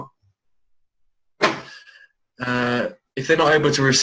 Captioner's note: door slams